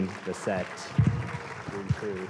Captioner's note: applause